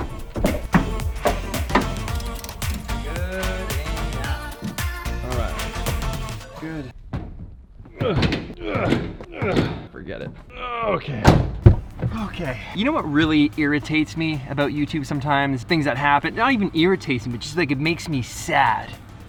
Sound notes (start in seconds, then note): 0.0 alternative pop music; 7.9 grunting